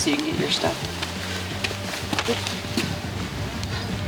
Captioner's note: footsteps